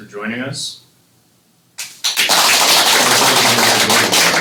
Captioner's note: applause